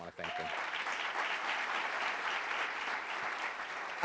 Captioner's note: applauding